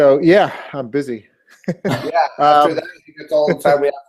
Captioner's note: laugh